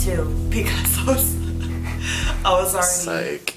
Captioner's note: laughing